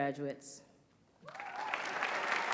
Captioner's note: applause